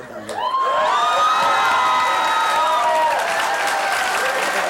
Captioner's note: cheering